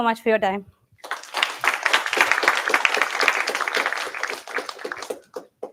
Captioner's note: applause